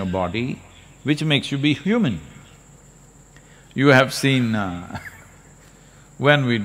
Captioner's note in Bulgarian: Смее се